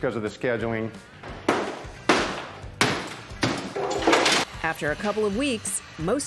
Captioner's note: hammer pounding